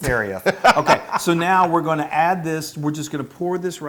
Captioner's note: laugh